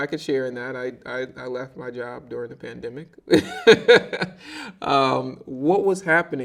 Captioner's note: laughing